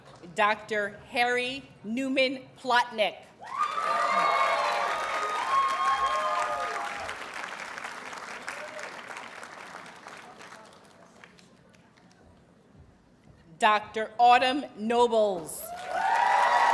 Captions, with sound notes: Dr. Harry Newman-Plotnick. [Audience cheers and applauds] Dr. Autumn Nobles.